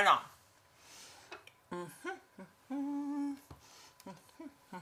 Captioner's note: humming